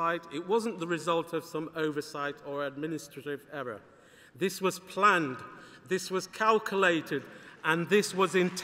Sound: applause

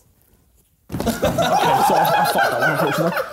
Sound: chair bangs; Sidemen laughing

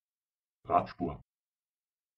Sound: fast Pronunciation

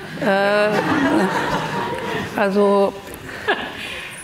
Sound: audience laughing

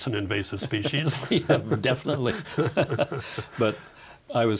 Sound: both laughing

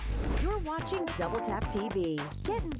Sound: voiceover

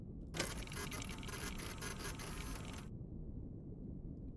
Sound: machine whirring

